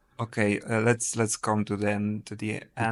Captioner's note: none